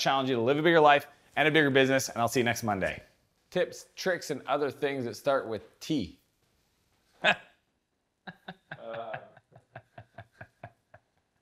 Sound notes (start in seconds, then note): 8.2 laughs